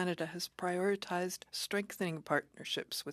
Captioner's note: speaking French